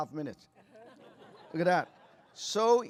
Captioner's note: laughter